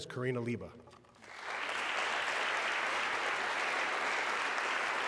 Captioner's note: audience clapping